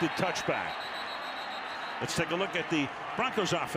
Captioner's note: whistle